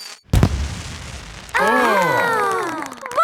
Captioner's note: exclamations